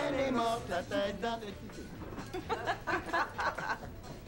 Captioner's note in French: Rires